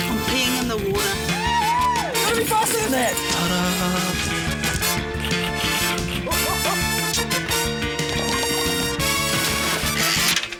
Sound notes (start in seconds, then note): 5.3 keys clack